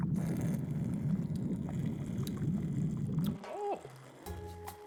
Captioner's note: sips his drink